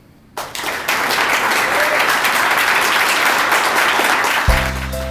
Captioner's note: applause